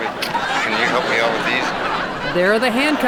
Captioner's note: audience laughing